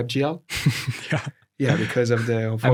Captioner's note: laughs